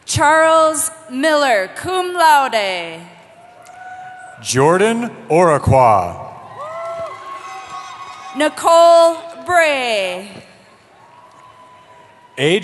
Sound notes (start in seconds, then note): 3.3 cheering; 6.4 cheering; 10.9 cheering